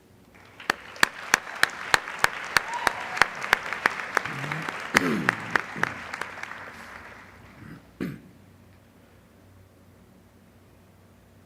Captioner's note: applause